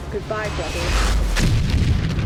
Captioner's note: explosion